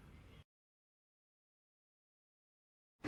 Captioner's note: silence